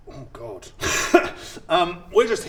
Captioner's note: laughs in no idea at all